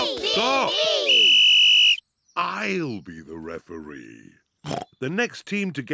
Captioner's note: blows whistle; snorts